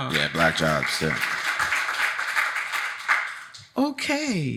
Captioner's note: audience applauding